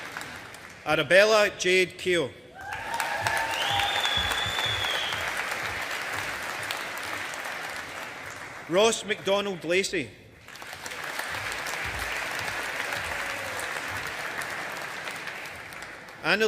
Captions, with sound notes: Arabella Jade Keogh. (AUDIENCE APPLAUDING) Ross MacDonald Lacey. (AUDIENCE APPLAUDING)